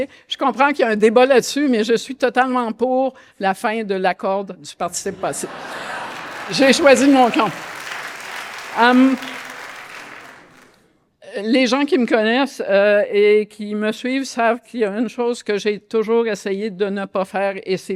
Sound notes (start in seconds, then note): 7.7 audience applause